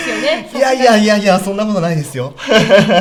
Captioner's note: laughs